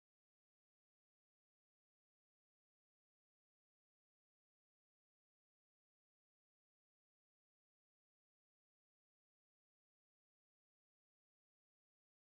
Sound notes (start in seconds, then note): none